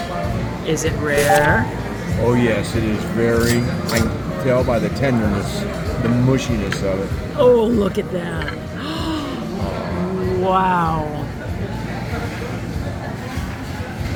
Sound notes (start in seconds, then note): 8.8 gasp